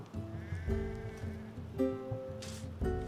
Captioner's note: sheep bleating